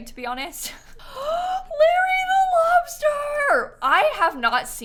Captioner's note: gasps